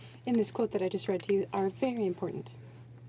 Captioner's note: speaking French